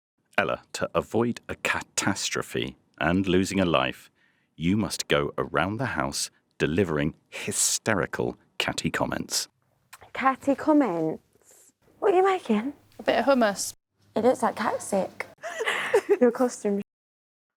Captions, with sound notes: Ella, to avoid a cat-astrophe and losing a life, you must go around the House delivering hysterical, catty comments. Catty comments? What are you making? A bit of hummus? It looks like cat sick. [LAUGHS] Your costume’s s**t.